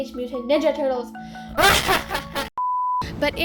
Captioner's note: failed attempt at an evil laugh